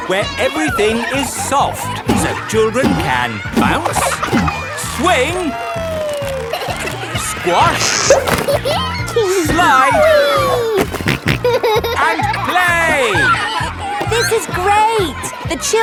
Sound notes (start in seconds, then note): 8.3 giggles; 10.6 snorting